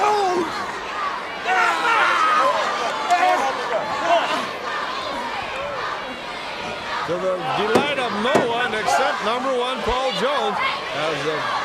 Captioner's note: crowd chatter